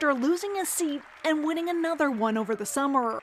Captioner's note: cheers and Applause